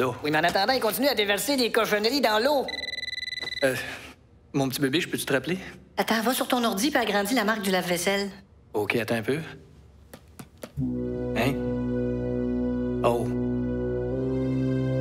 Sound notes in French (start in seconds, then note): 2.6 sonnerie de téléphone